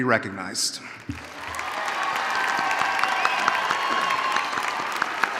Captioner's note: audience cheering